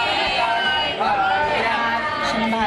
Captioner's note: overlapping chatter